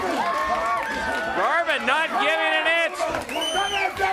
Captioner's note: crowd cheering